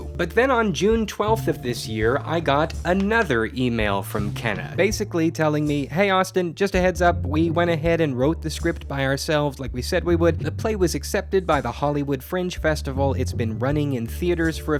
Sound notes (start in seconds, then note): none